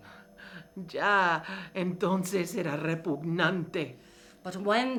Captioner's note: speaking in foreign language